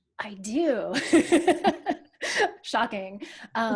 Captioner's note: laughs